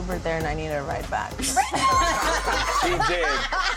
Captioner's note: laughter